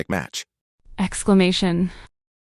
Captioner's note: exclamation